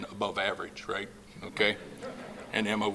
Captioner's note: laughing